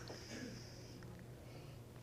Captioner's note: sigh